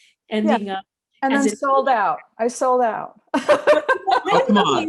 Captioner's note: laughs